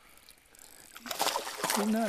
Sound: splash

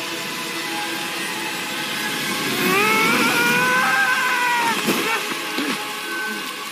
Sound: screaming

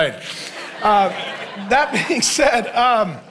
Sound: congregation laughing

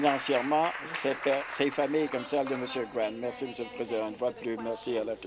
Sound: applause

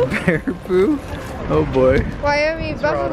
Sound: dad, laughs

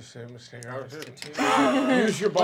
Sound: laughing

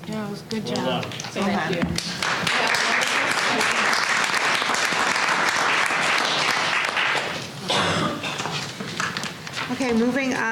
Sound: applause

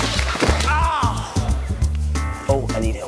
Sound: light music; groaning

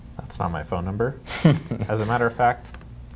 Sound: laughter

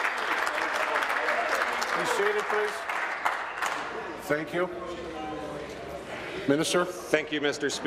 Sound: applause

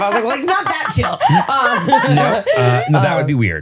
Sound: laughing

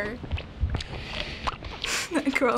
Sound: smacking lips noisily; snickers

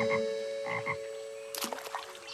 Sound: ribbiting

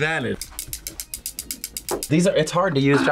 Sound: chopsticks clicking

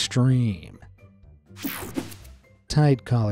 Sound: image whooshing

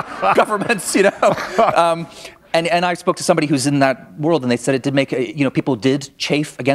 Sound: laughter

